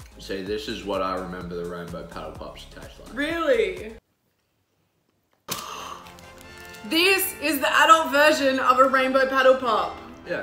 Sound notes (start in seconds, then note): 5.5 gasps